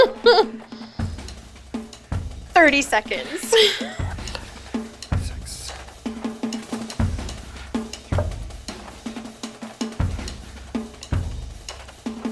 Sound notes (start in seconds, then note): 0.1 laughs; 5.0 drumbeats